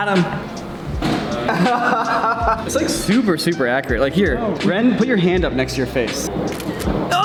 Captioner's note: laughter